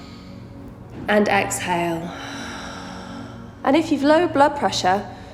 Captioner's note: heavy breathing